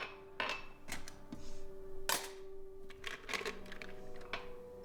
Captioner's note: glasses clinking